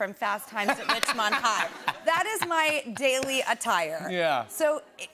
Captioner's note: laughter